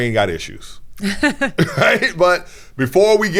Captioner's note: laughs